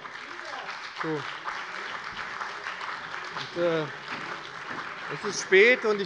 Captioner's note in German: Beifall bei dem BÜNDNIS 90/DIE GRÜNEN und der CDU